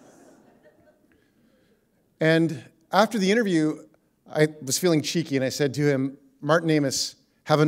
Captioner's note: laughter